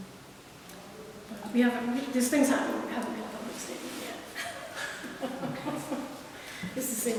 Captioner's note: laughs